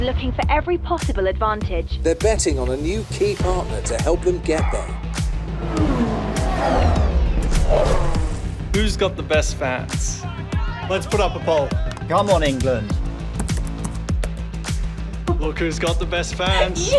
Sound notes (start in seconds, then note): 0.0 upbeat music; 6.8 car engine roaring; 14.8 upbeat music